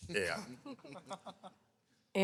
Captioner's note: laughing